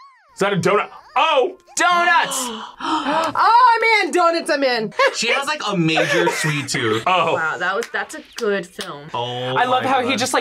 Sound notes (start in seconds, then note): 0.0 laughs; 2.2 gasps